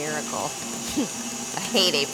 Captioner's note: chuckles